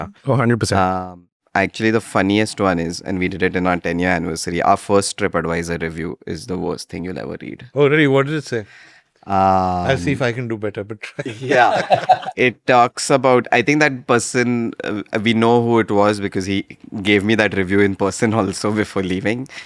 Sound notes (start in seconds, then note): 11.2 laughs